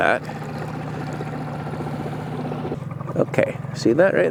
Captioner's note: boat motor hums